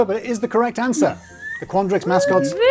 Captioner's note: cheering